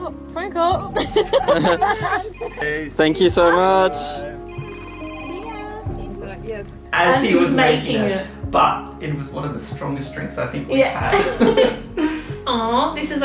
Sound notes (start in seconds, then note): 0.9 laughter; 4.4 cell rings; 11.0 laughter